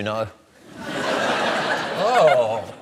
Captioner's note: laughter